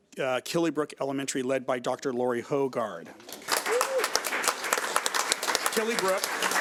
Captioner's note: audience applauds